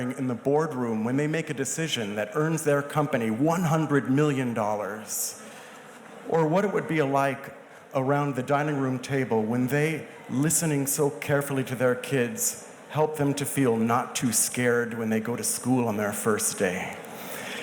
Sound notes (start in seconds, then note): none